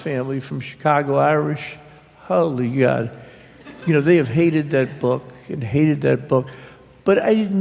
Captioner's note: laughter